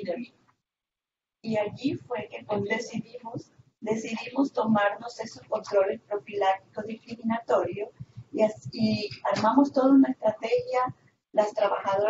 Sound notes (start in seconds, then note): 1.4 Spanish